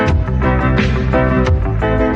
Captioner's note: none